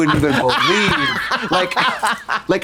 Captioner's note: Katya hee-haws